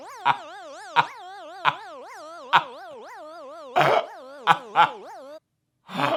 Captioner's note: buzzing; slowly laughing